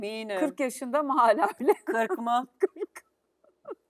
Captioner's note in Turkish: kahkaha